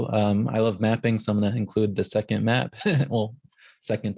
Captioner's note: chuckles